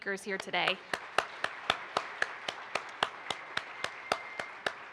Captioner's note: participants applaud